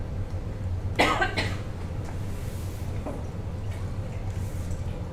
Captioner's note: woman coughs